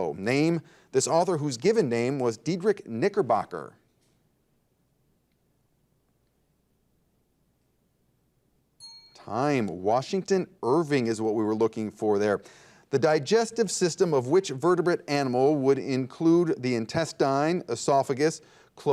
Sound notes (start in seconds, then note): 8.8 bell dings